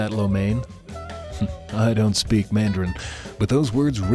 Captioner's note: chuckles